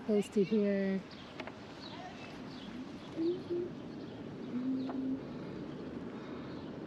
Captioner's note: humming